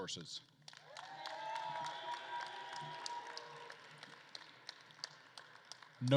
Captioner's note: attendees cheering and applauding